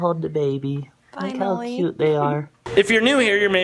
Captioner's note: laughs